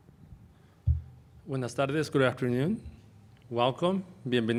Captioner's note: spanish